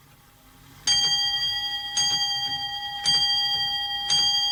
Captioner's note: clock chimes 11